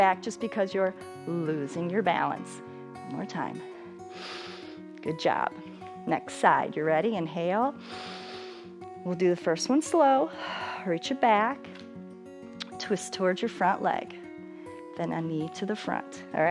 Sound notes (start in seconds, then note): 4.0 inhales; 7.8 inhales; 11.1 exhales